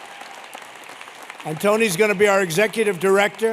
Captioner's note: applause